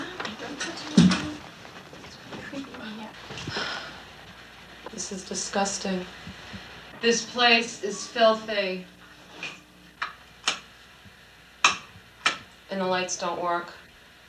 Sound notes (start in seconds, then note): 10.2 click, click